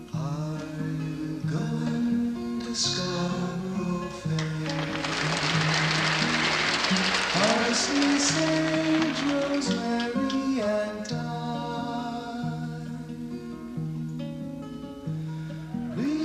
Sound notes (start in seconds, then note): 4.3 audience applause